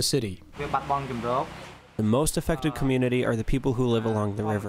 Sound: through translator

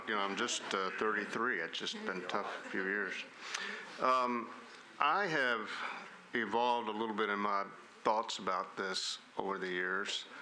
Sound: laughter

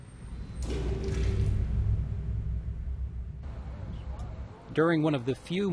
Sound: splash

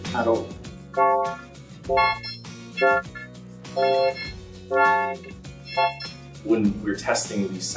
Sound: distorted electronic voices

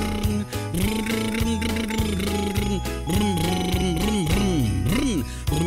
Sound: mouth sounds on the air

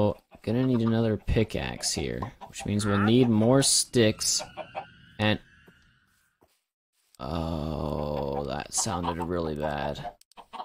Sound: creepy shriek noise

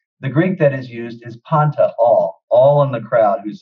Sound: speaks Greek

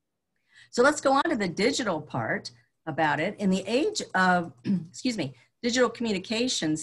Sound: clears throat

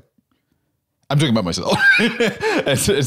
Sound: laughs

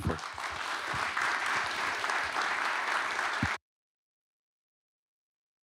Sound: applause

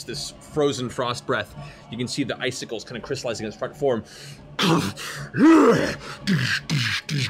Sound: roars

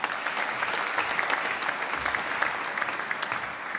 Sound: applause

